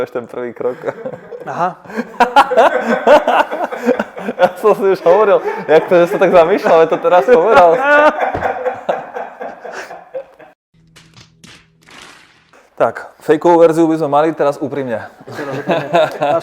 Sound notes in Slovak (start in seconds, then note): 10.4 Smiech